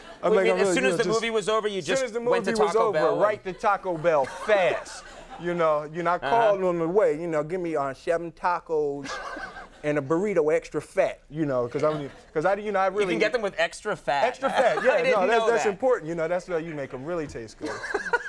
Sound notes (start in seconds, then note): 0.1 audience laughing; 5.1 Conan laughing; 9.3 Conan laughing; 17.6 Conan laughing